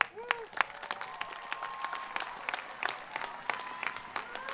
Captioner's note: students cheering